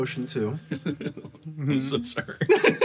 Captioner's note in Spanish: Risas